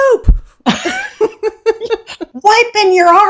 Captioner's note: laughing